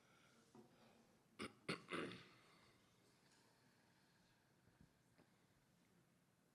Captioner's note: interpreter speaking faintly; interpreter clears throat